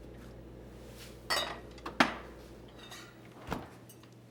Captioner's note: bottles clanking; fridge door thuds shut